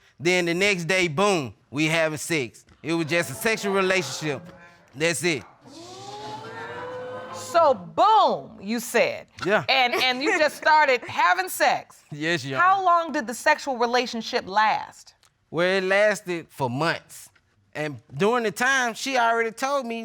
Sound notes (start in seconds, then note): 5.6 audience exclaiming